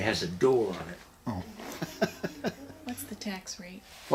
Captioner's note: laughs